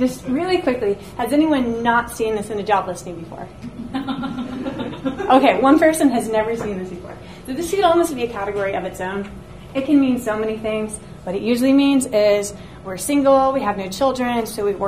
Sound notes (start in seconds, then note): 3.7 audience laughs